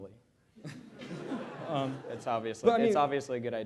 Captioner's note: laughter